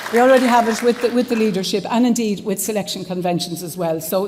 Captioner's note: applause